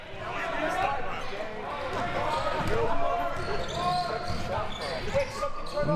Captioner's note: audience chattering and yelling